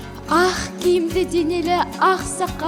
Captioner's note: in Kazakh